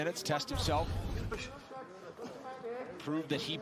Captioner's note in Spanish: entrenadores vocalizando